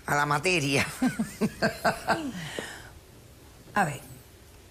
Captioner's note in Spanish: risas